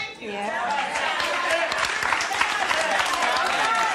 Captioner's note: applause